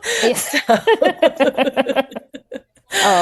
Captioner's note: laughing